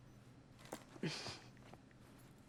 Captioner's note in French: Becca se racle la gorge